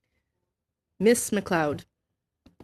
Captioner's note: speaking FRENCH